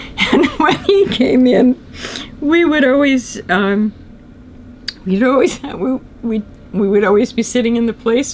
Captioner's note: laughs